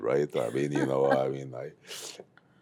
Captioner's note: laughs